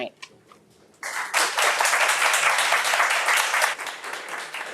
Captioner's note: audience applauds